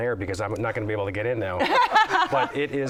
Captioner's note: laughter